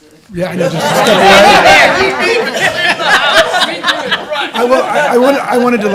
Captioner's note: laughter